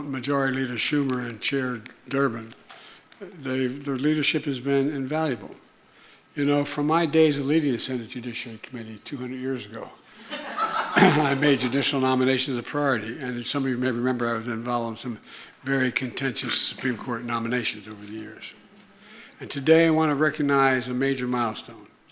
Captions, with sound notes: Majority Leader Schumer and Chair Durbin, they -- their leadership has been invaluable. You know, from my days of leading the Senate Judiciary Committee 200 years ago -- (laughter) -- I have made judicial nominations a priority. And some of you may remember, I was involved in some very contentious Supreme Court nominations over the years. And today, I want to recognize a major milestone.